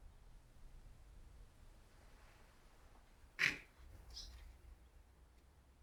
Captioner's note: none